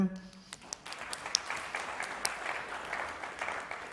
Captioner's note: applause